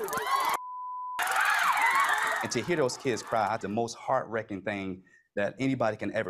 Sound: screams

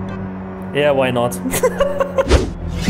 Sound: laughs

